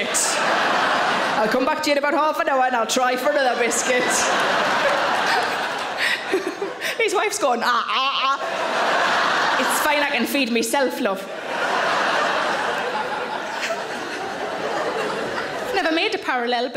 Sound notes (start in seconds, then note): 0.1 audience laughs; 4.1 audience laughs; 5.0 Sarah laughs; 11.9 audience laughs